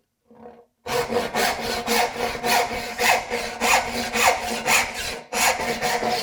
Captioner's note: saw on wood rhythmically rasping